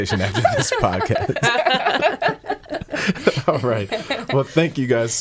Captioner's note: laughing